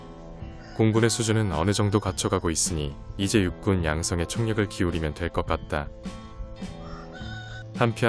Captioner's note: wild birds